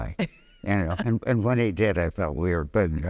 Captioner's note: laughing